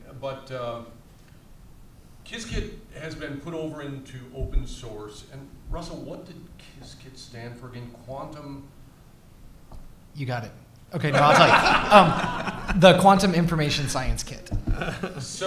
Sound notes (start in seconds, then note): 11.1 all laughs